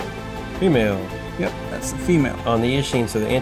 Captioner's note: voiceover